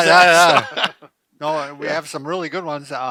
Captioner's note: men laughing